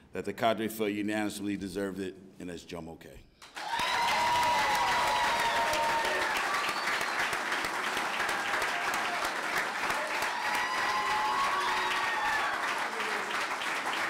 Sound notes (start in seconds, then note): 4.6 clapping